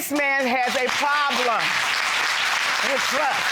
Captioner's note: audience applauding